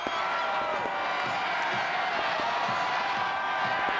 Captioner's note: crowd jeering